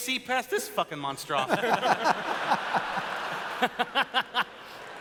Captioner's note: laughter